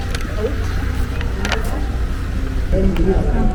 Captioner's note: laughs